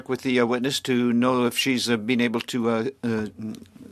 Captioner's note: speaking French